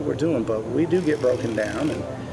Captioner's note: drill cracks